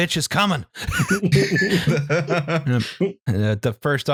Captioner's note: laughter